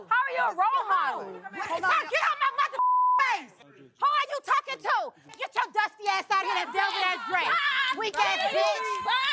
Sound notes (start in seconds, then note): 2.8 beep